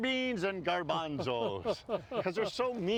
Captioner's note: laughing